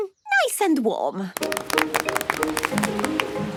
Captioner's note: applause